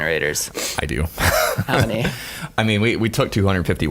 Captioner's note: laughing